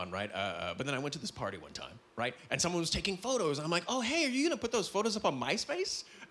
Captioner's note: none